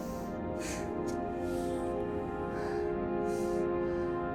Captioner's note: labored breathing